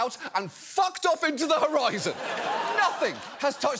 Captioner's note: audience laughs